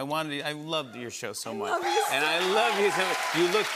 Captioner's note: normal voice